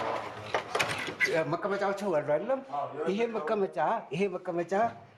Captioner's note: speaking in foreign